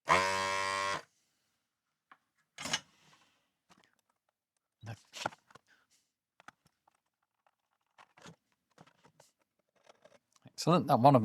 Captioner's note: keyboard Clattering